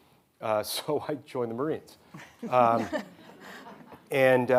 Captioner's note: audience laughing